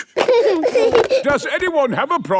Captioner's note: giggling